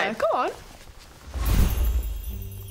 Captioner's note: poof!